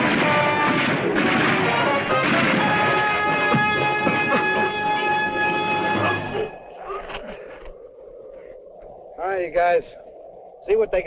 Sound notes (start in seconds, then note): 7.0 wind howling